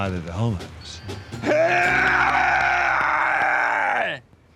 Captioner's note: groaning loudly